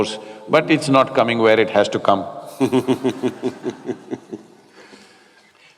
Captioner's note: Matthew Laughs